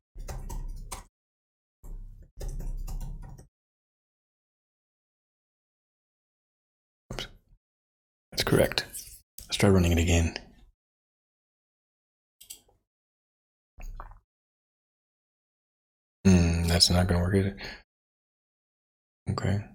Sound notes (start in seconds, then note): 11.2 blank Audio